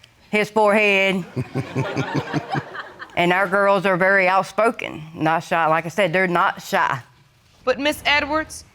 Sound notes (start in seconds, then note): 1.2 audience giggling